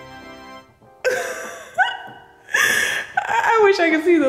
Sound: laughing

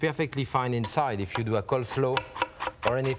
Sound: knife chopping

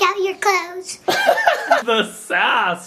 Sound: laughing

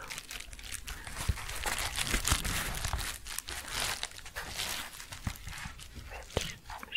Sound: crinkling

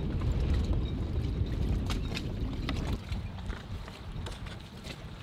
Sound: water rippling softly

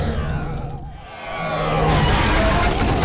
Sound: thudding

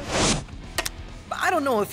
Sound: clacks

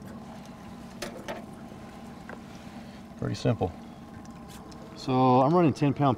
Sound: winch motor running

